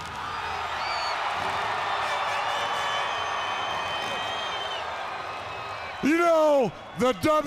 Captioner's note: crowd cheering